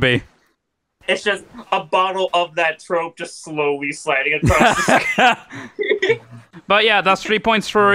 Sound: laughing

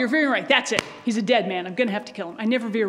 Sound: stomps

